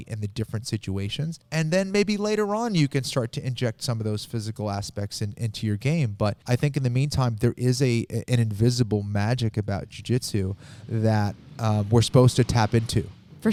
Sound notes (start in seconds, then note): none